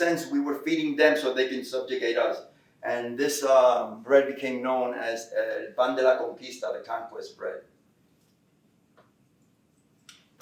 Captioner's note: Spanish